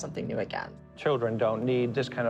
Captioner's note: soundbite of archived recording